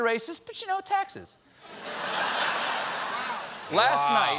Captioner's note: laughter